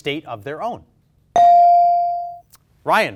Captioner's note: bell dings